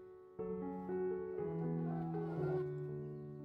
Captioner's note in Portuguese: som galinheiro